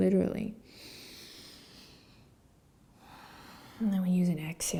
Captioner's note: inhaling and exhaling